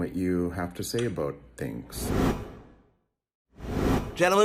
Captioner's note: air whooshing